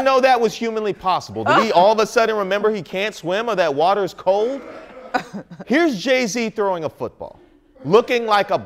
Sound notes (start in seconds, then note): 5.1 laughter